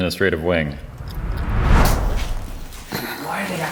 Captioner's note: whooshing sound